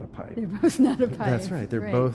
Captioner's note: chuckles